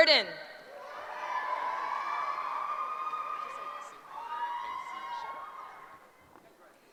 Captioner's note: cheering